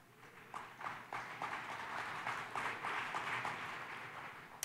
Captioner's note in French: Applaudissements